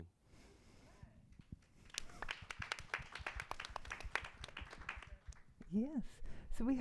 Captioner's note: audience applauding